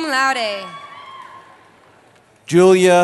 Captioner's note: cheering